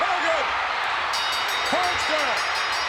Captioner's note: ring bell clanging